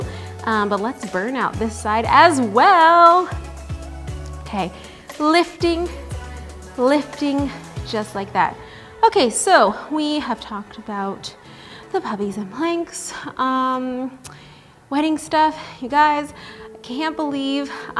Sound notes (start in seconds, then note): none